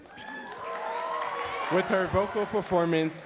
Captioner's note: audience cheering and clapping